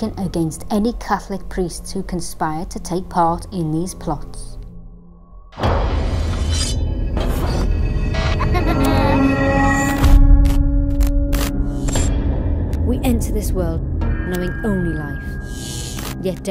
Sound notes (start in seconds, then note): 5.7 eerie music; 8.4 baby laughs